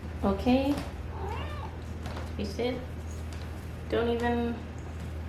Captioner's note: meow